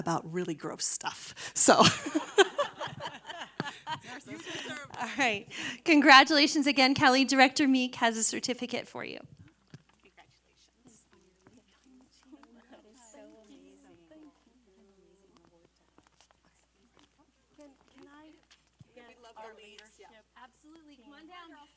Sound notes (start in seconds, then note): 5.7 laughter